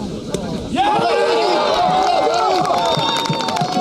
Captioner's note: cheering